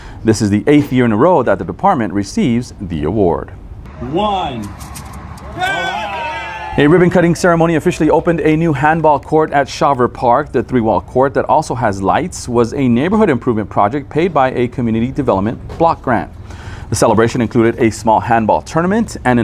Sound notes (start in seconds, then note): 5.5 people cheer